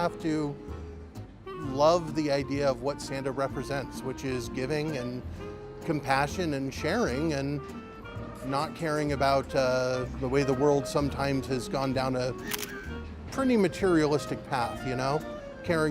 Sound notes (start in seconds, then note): 12.4 shutter clicks